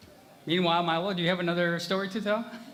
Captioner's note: laughter